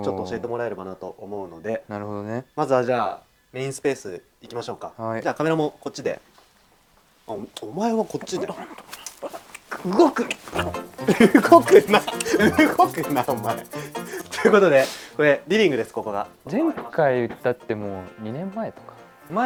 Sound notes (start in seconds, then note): 11.9 laughs; 13.5 laughs